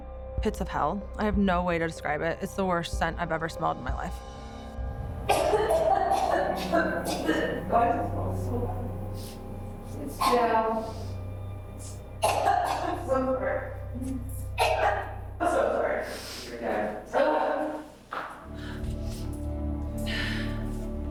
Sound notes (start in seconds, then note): 5.2 coughs; 12.2 coughs; 14.9 coughs; 18.4 dramatic music